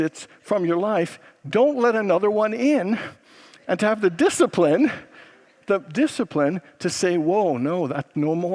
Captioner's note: congregants laugh